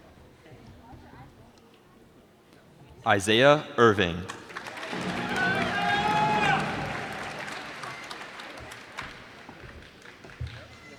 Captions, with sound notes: Isaiah Irving. [cheers and applause]